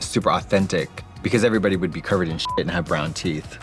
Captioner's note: beep